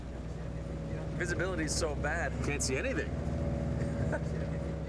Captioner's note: laughs